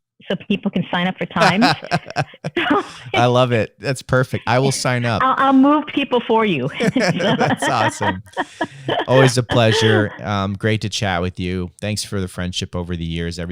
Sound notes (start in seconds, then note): 1.4 laughter; 6.6 laughter